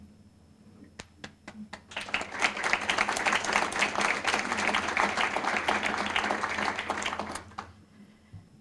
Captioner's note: applause